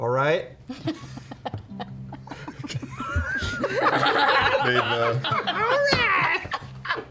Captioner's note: laughter